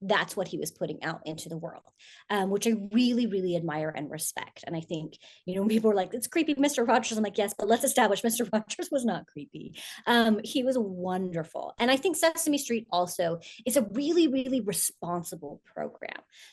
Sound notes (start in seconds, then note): none